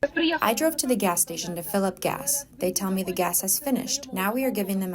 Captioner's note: through translator